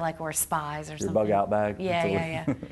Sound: laughing

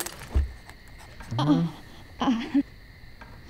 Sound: moaning

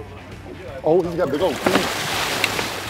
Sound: splashing

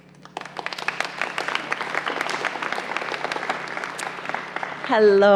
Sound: applause

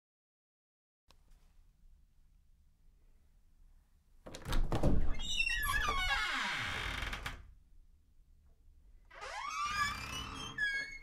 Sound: sound of squeaky door

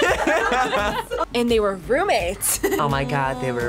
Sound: both laugh; laughs

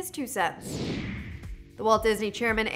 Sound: whooshing

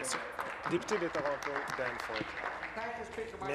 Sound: applause

